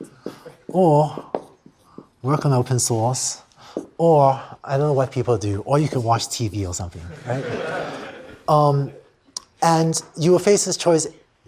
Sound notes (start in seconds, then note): 7.0 laughter